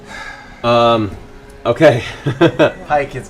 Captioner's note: laughs